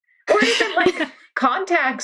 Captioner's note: laughing